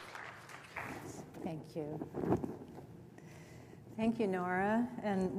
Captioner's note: applause